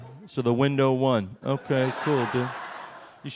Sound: audience laughs

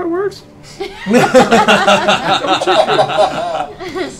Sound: laughter

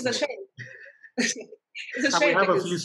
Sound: laughter

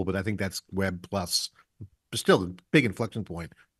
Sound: none

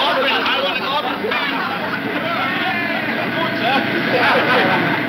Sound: machine whirring; cheerful laughing; western instrumental music

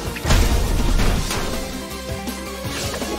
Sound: thudding

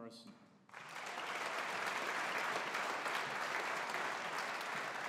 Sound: audience applauding

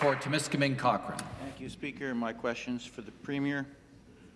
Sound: some Applause

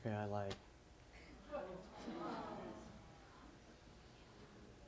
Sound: audience whines

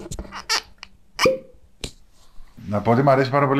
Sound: sound of the cap

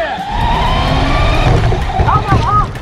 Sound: cars whirring

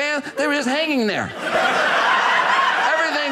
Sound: audience laughing

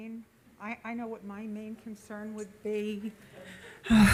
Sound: sighs

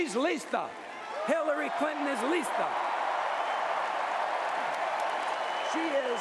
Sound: applause

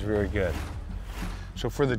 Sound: whoosh

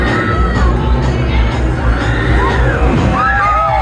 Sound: upbeat music; screams

